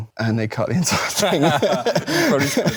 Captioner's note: both chuckle